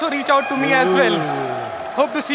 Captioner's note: cheers